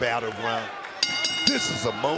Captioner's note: bell rings